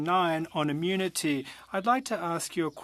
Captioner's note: speaking French